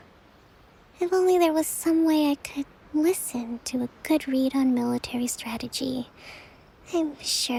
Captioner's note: sigh